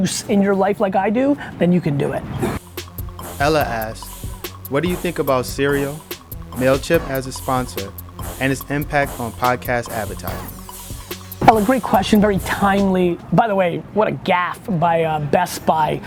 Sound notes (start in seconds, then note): 2.7 voiceover